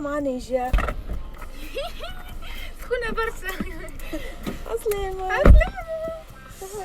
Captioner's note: giggles